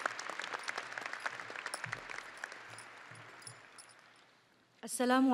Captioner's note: audience applauding and cheering